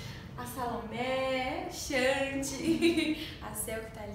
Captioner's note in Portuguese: risos